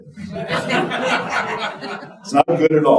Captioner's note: audience laughing